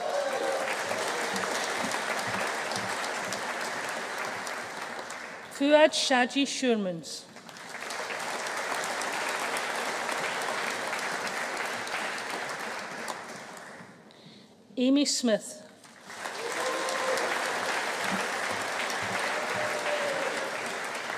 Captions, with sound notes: (AUDIENCE APPLAUDING) (AUDIENCE CHEERING) Fuaad Shajie Schuurmans. (AUDIENCE CHEERING) Aimee Smith. (AUDIENCE APPLAUDING) (AUDIENCE CHEERING)